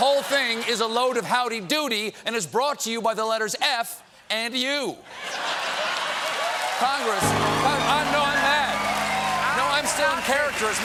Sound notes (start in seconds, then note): 5.1 laughter; 5.2 cheers and applause